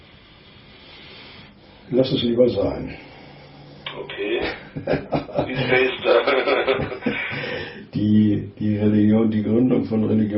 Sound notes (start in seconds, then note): 4.4 laughter